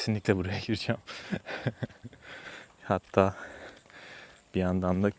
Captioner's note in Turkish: kahkaha